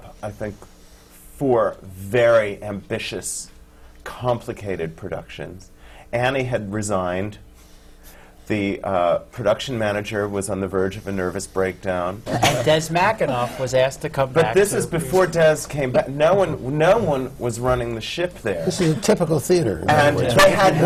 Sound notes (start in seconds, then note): 12.0 laughter from the panel; 19.8 laughter